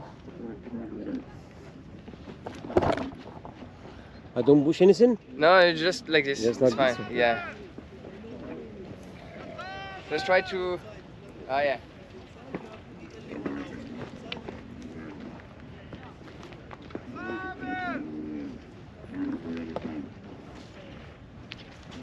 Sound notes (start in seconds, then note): 1.4 footsteps; 11.8 footsteps; 17.4 speaking in foreign language